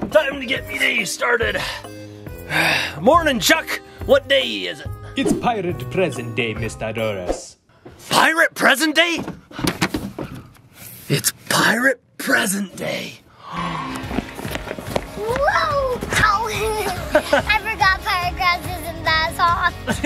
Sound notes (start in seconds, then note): 13.3 gasps; 16.6 laughs